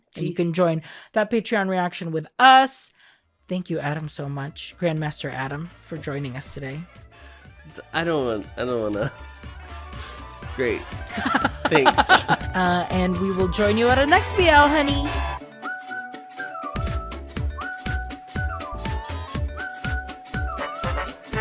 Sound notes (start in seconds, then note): 11.0 laughs